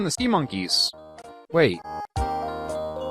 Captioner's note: confused